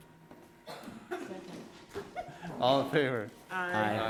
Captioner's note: giggles